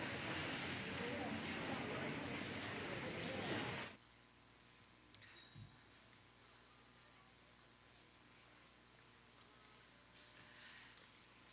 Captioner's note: audience chattering